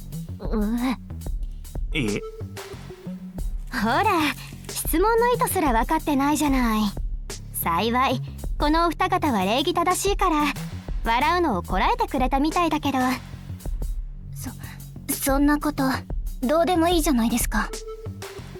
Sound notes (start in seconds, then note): 1.9 cough